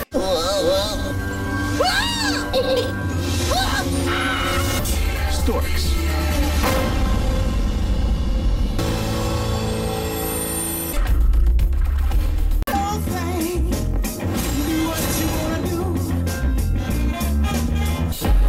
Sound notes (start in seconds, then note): 1.7 screams, whimpers; 3.5 screaming